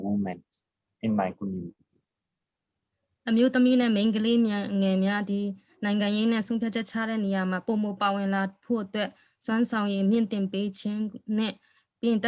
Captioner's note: speaking in another language/ Interpretation